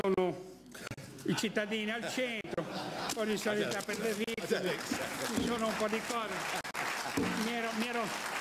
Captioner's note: laughing